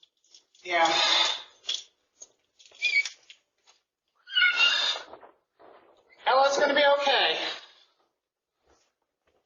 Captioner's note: Ella whimpering